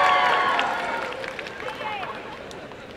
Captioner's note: applause and cheering